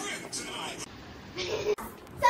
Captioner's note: Laugh